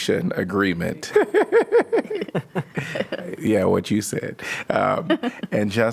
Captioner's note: laughter